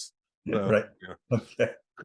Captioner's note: chuckles